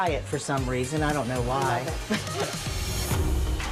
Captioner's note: chuckles